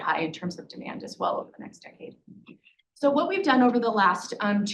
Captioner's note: none